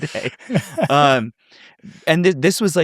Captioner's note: chuckle